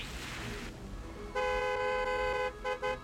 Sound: honking

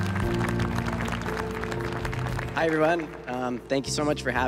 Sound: applause

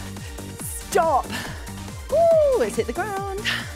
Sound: exclaiming

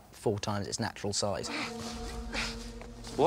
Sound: harry & ron grunting

